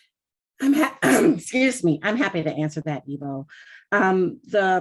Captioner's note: clears throat